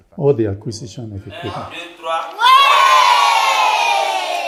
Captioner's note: non-english speech